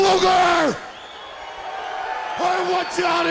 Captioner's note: crowd cheering